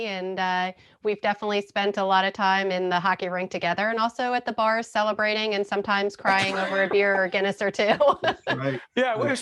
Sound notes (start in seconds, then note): 6.3 laughing